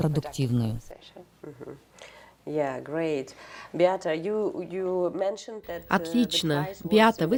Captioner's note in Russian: Разговаривают на английском